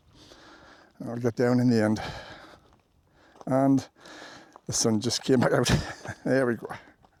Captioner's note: sighs